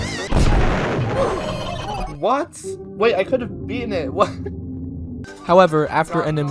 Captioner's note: laughing